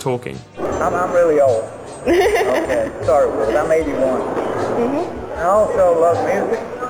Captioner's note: laughter